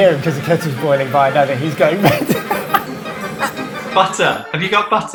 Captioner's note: laughs